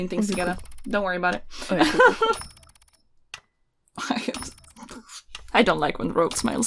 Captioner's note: laughs